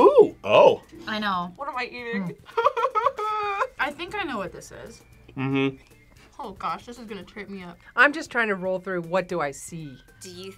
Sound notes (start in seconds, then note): 3.2 whimpers